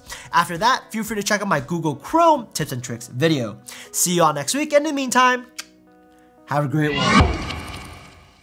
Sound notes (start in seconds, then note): 5.7 clicks tongue; 6.8 screen wipe whooshes